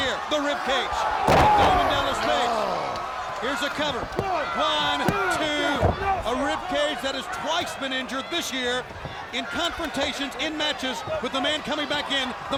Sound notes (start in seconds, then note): 0.6 body thudding; 3.7 hands thudding